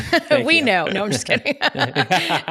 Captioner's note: laughs